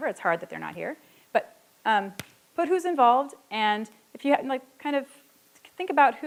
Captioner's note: stutters